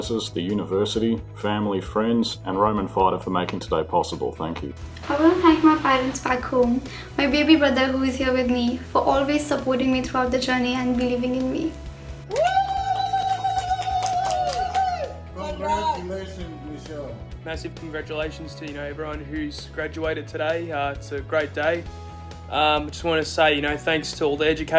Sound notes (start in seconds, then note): 12.2 women ululating